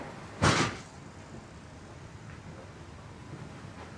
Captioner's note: door slams